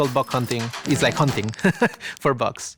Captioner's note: laughs